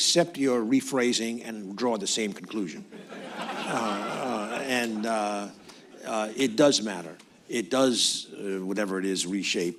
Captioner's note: laughter